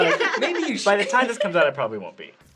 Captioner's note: laughing